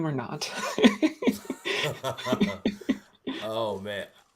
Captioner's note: laughter